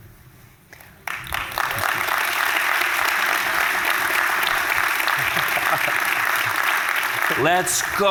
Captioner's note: applause